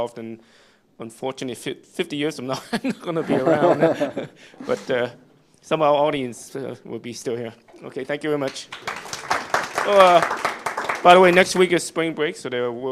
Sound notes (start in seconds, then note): 2.6 laughter; 8.4 applause